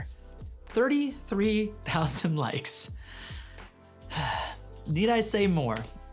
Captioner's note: sighs